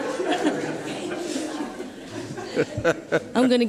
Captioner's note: laughing